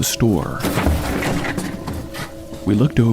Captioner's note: things falling